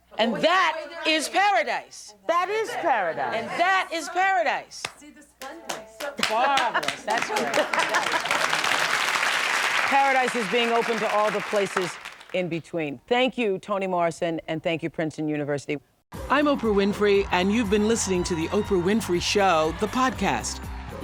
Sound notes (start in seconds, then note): 5.6 applause; 6.3 laughter